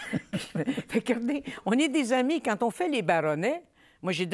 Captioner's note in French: rires